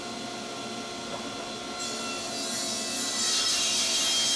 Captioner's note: saw grinding